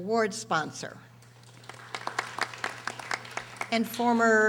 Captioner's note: audience applauding